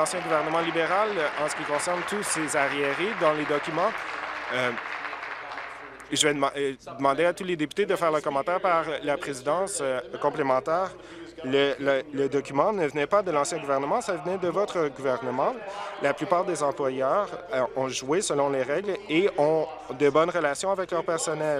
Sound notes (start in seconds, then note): 4.4 applause